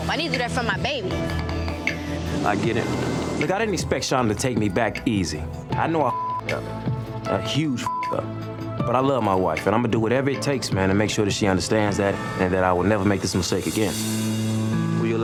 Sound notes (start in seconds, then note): 6.1 beep; 7.8 beep